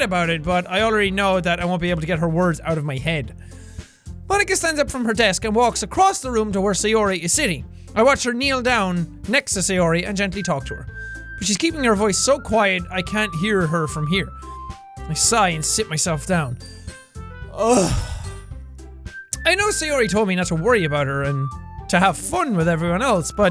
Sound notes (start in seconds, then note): 17.5 loud sigh and sit